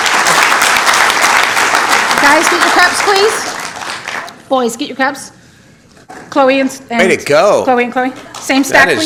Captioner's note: applause